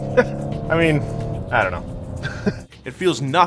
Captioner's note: laughs